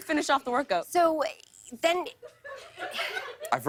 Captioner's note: laughter